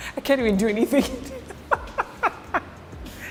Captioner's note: laughter